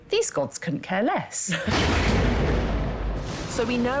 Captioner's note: thunder